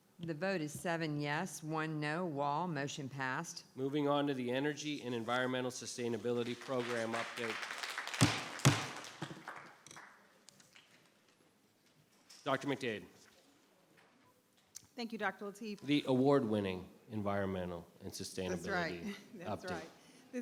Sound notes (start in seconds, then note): 8.1 applause; 8.1 gavel bangs